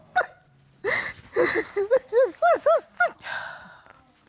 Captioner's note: crying